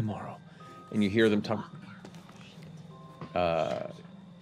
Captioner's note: whispers